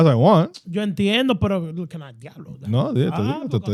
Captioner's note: speaking In Foreign Language